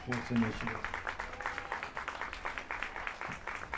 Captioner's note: applause